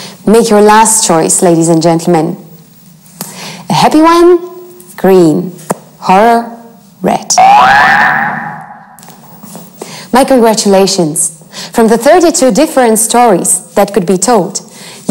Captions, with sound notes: Make your last choice ladies and gentlemen. A happy one, green, horror, red. (alarm rings) My congratulations, from the 32 different stories that could be told